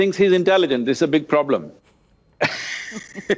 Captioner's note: laughs